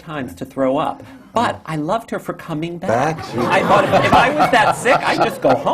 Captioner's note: laughter